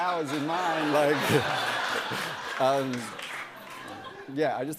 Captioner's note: laughter